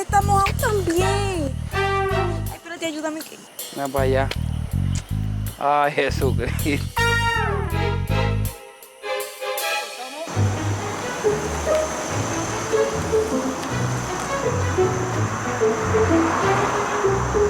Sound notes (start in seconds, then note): 6.4 comedy music; 12.1 vehicle arrives